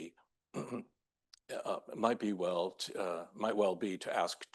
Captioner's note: clears throat